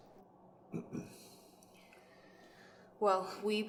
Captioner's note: Jesse grunts signaling to Suzette his discomfort